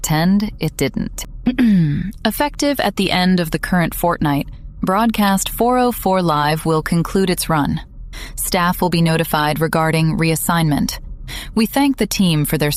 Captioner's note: clears throat